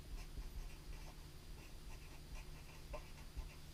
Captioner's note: pen scratching